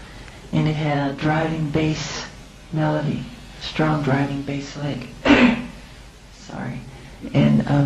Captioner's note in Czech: kašle